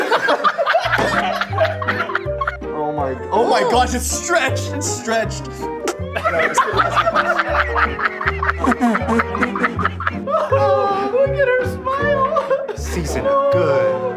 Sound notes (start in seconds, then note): 0.0 laughter; 5.8 laughter; 6.1 gaging; 8.3 laughter continues; 8.3 spitting